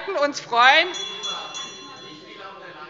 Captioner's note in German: Unruhe - Glockenzeichen des Präsidenten